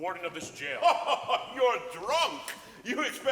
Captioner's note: Marquis laughs